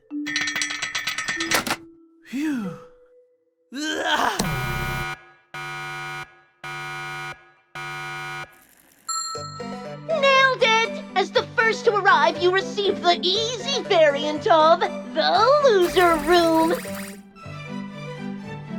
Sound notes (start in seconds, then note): 0.3 cranking sound; 5.2 alarms; 9.1 ding!